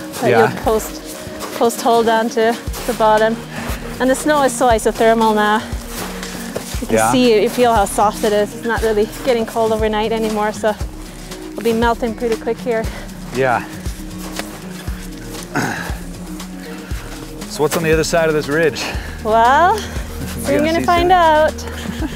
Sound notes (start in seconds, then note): 15.0 footsteps